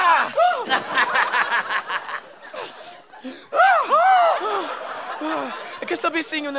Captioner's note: laughter